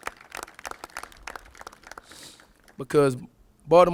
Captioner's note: applauses